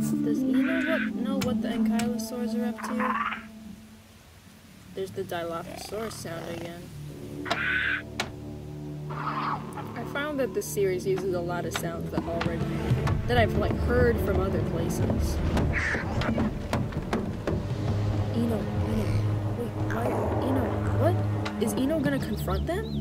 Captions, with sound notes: Does Eno wha- know what the ankylosaurs are up to? *dinosaur call* There's the dilophosaurus sound again. I found that this series uses a lot of sounds that already- that i've like heard from other places. Eno, Eno, wait- why- Eno, what? Is Eno gonna confront them?